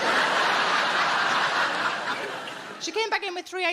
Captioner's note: audience laughing